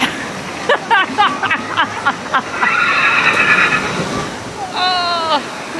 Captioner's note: laughter